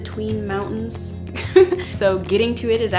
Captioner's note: laugh